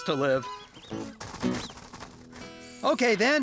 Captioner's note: rabbits Squeaking